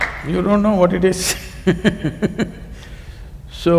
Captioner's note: laughs